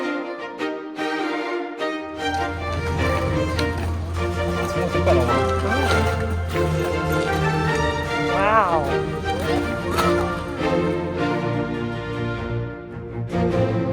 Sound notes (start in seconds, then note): 0.1 background music; 9.4 speaking German; 12.1 background music